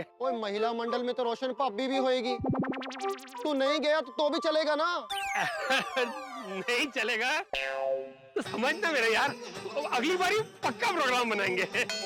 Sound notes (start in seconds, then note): 5.4 laughing